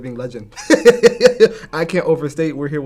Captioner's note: laughs